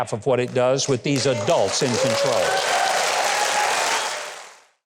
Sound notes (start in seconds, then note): 3.4 audience applauding; 3.4 audience cheering